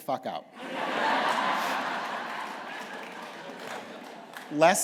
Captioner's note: laughter